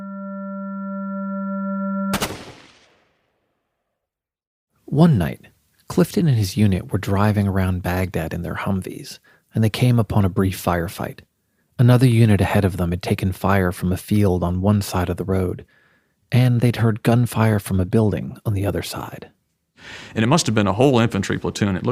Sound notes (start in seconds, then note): 0.3 suspenseful music; 2.1 gun banging